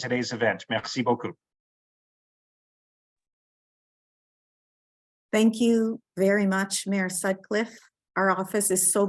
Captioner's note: speaking French